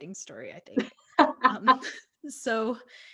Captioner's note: laughs